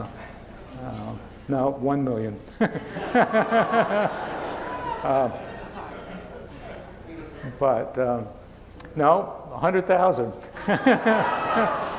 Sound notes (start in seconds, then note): 2.5 chuckling; 4.9 laughing; 10.5 laughing